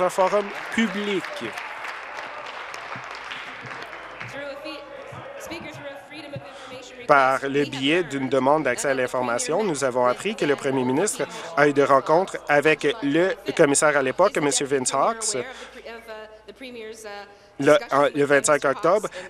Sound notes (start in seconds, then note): 0.0 applause